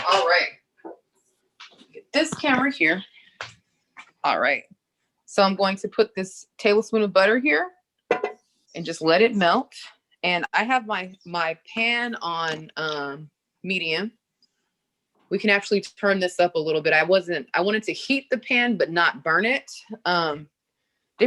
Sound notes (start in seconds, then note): none